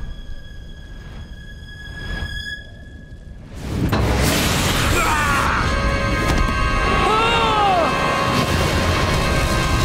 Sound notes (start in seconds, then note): 6.8 he shouts